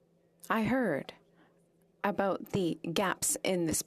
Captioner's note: speaking French